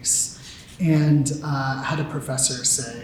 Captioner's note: none